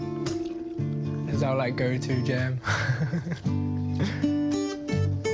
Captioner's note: laughs